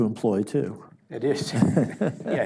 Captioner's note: chuckles